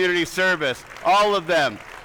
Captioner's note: attendees applauding